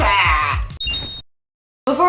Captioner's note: Legend of Zelda rupee noise